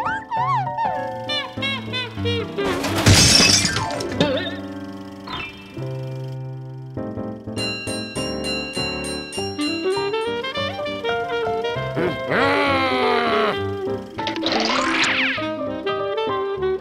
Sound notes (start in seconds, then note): 1.4 trumpeting laughter; 2.6 crashing noises; 7.5 trolley bell ringing; 11.8 frustrated grumbles; 14.5 vaudeville music